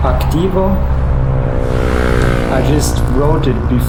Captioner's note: motorbike passes